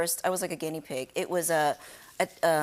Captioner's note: none